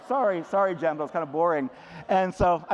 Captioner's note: laughter